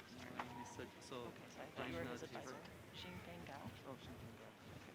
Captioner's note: people chattering